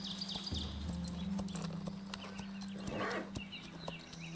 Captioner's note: horse hooves clopping; horse snorting